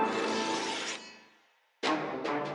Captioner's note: blades rubbing together; dramatic music